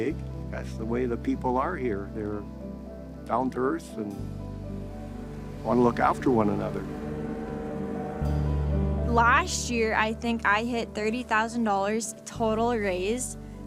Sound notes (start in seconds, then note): 7.6 engine roaring